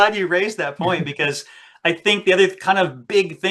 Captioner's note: laughs